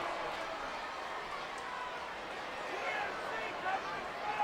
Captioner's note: crowd murmuring